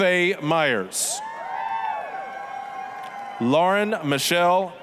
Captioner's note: applause, cheering